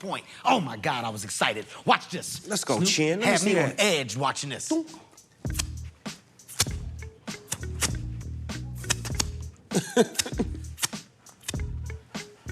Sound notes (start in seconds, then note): 5.5 imitating racquet hitting ball